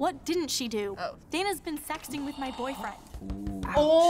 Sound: gasping

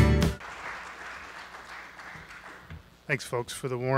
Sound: audience applauds

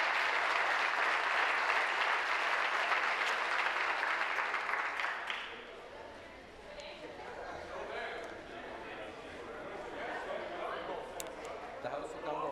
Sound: applause

